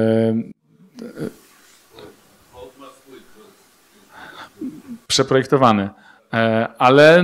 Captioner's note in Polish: szum